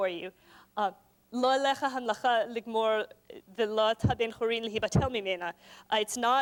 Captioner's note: non-english speech